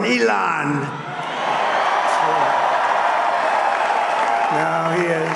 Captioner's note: applause